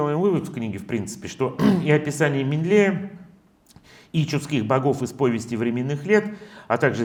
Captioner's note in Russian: откашливается